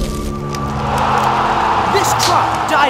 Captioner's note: crowd erupts into cheers again!!